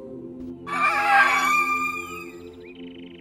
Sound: birds screeching

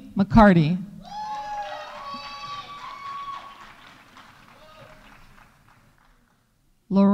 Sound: audience cheering; audience applauding

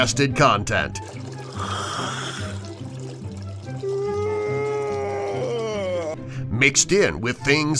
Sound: SFX: Mighty Eagle yawning

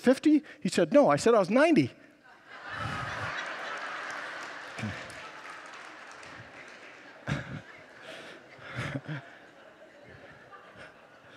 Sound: congregants laugh

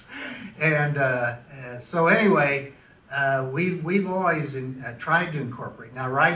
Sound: laughs to self

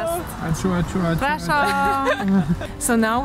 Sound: laughing

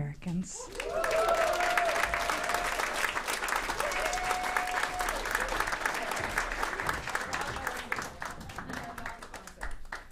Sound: applause

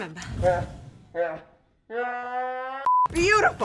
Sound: laughing

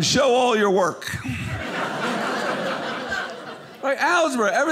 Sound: audience laughing

